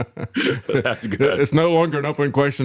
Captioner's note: both Laughing